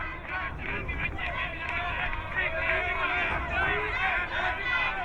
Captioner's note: crowd muttering